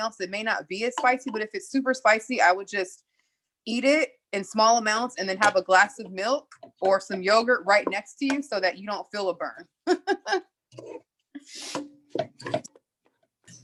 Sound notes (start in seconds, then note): 12.1 laughs